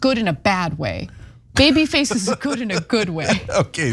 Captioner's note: laugh